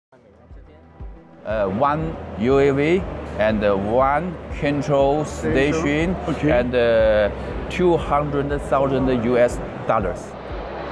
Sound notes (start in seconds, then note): 1.9 drone